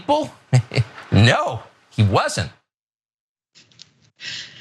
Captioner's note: laugh